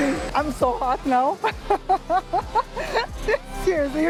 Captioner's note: laughs